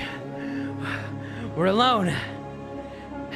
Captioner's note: panting; out of breath